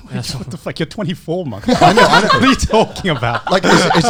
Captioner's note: laughs